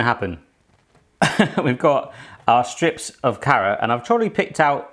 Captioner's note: chuckles